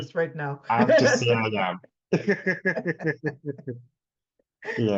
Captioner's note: laughs